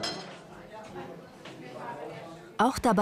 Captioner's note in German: Stimmengewirr